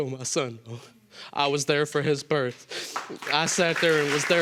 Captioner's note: applause